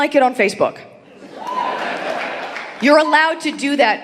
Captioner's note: audience applauding